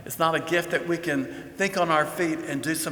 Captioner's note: none